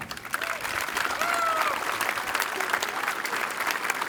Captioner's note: applause